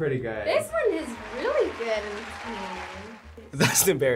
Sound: crowd cheers

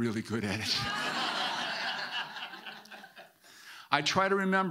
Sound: audience laughing

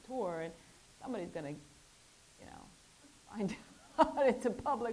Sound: laughs

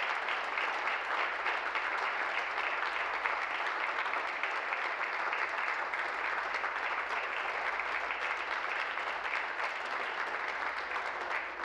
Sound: applause

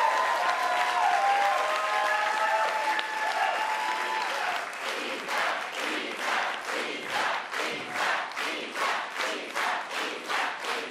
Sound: cheers and Applause

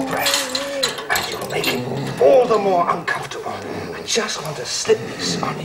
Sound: growling

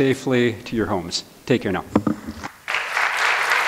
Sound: applause

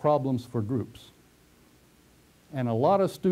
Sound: pause

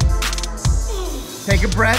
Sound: grunts

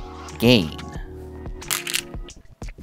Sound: stones rattling

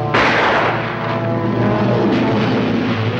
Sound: gun firing

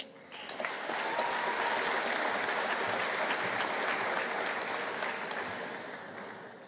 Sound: audience applauding; audience cheering

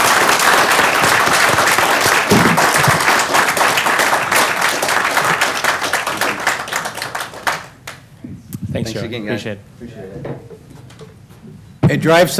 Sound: applause

